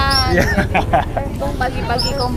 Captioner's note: laugh